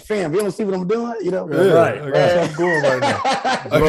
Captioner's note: Rel laughing